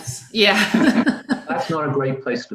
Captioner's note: laugh